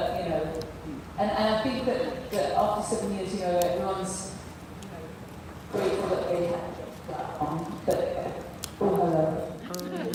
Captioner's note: mic starts to drop out